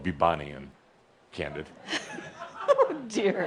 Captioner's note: giggling